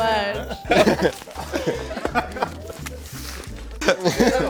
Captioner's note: all laughing